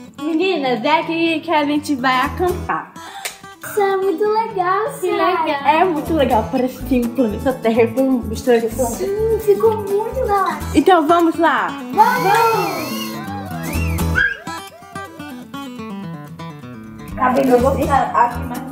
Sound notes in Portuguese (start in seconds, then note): 2.5 suspiro surpreso; 11.9 sons de comemoração